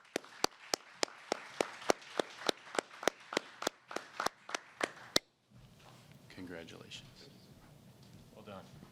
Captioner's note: applause